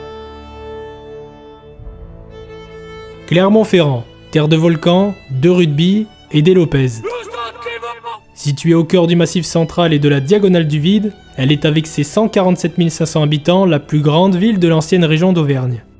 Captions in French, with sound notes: Clermont, terre de volcans, de rugby et des Lopez (cri lointain). Situé au cœur du Massif central et de la diagonale du vide, elle est avec ses 147 500 habitants la plus grande ville de l'ancienne région d'Auvergne.